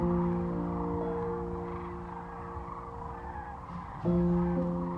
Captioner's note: crane calls